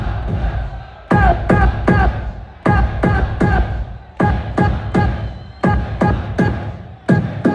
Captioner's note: crowd; synchronized beat